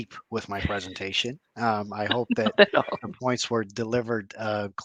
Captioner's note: laughter